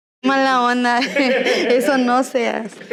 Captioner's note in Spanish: ríen